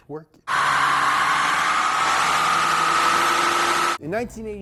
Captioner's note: engine humming